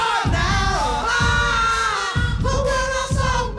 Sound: group groaning

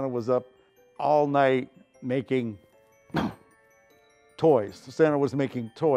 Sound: cough

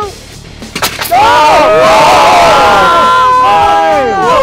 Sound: all shouting

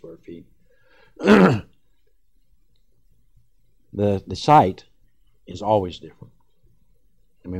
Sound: clears throat

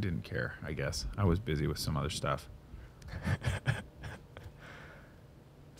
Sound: chuckles

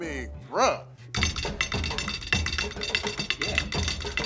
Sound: drums plate

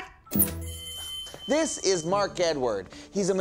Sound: bell ringing

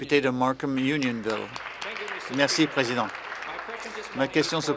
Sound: applause

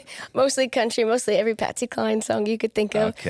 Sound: laughs

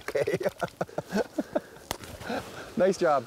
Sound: laughter

